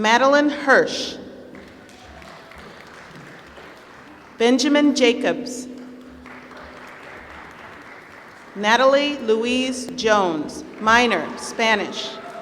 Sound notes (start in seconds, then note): 1.5 applause; 12.1 applause